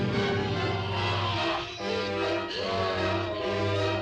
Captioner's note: groaning